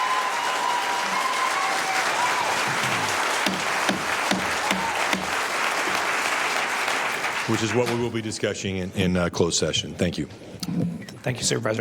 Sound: cheers and applause

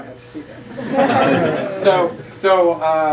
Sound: laughter

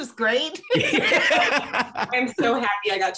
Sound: laughing

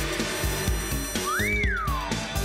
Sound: whistles

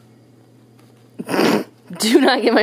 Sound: laughing

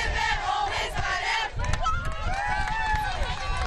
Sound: cheering and clapping

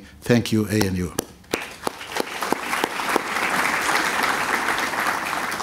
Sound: applause

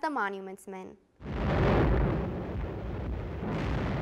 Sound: explosions

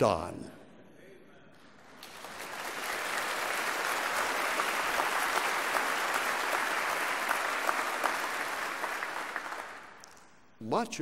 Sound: applause

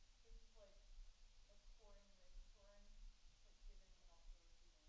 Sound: faintly speaking

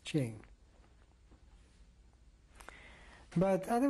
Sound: pauses for 3 seconds

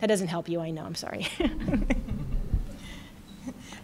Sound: laughter

